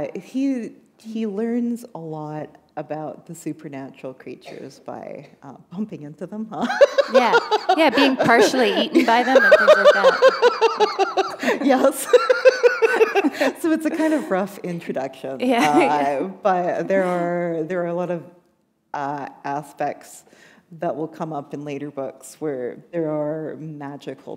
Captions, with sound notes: He learns a lot about the supernatural creatures by bumping into them. [laughter] Yeah, being partially eaten by them. What's up with that? [laughter] Yes. [laughter] It's a kind of rough introduction. But there are a lot of aspects that will come up in later books, where there are magical